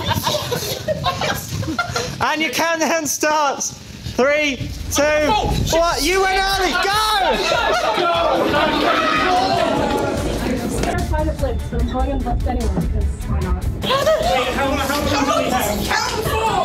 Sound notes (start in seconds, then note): 0.0 laughter; 7.7 shouting and laughter